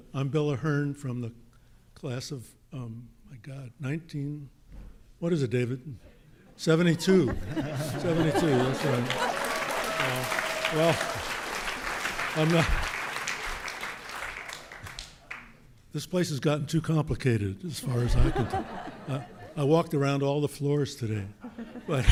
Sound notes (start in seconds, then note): 7.7 audience laughing; 9.6 audience applauding